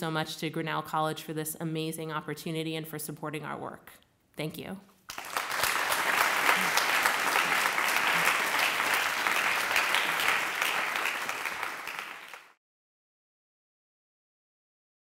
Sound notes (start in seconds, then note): 5.1 applause